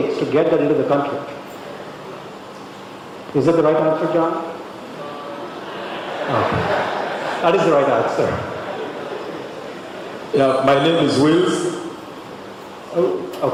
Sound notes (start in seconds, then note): 5.4 laughter